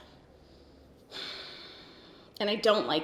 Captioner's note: sighs